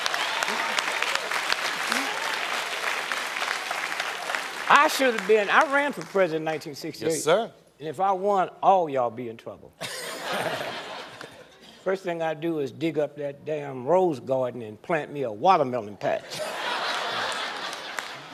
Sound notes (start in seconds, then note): 0.9 laughter; 3.6 applause